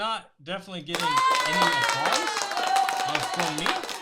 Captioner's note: crowd applauds